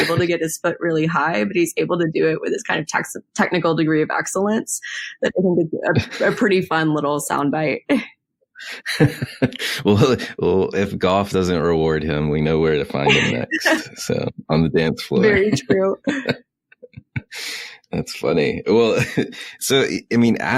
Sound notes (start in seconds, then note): 8.6 both laugh; 12.8 both laugh